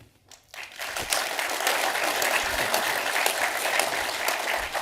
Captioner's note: audience applauding